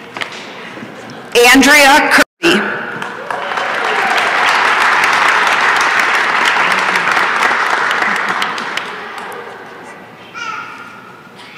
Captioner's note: applause and cheering